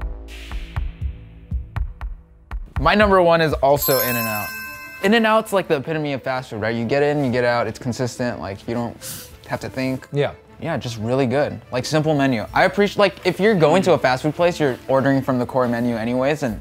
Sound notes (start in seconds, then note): 0.2 dramatic music; 3.8 bell ringing